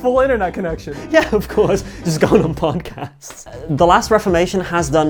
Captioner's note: laughing